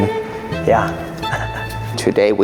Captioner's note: chuckles